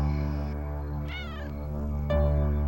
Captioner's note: kitten meows